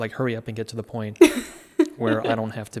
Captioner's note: laughing